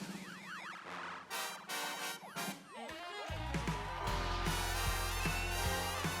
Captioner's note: upbeat music; crowd cheering